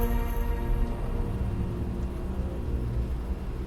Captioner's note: buzzing and warped sounds